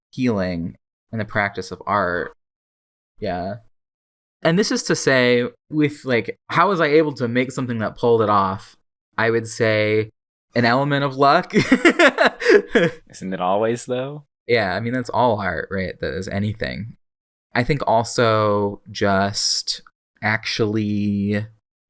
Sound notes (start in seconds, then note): 11.6 laughs